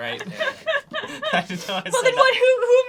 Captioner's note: laughs